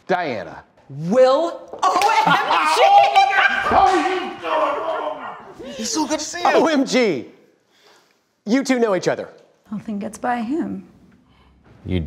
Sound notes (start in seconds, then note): 2.9 both laughing; 5.1 laughing